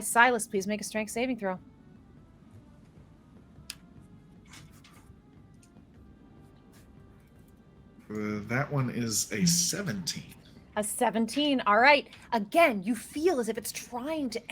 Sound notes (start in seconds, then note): none